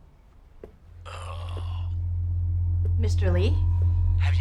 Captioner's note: person groaning